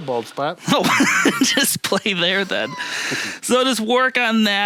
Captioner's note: chuckling